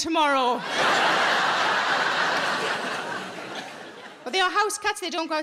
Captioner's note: audience laughs